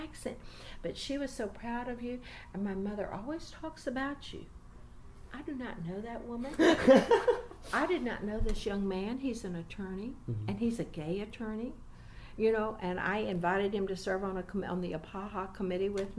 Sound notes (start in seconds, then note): 5.3 laughs